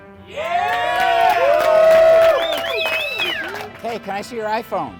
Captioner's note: crowd cheering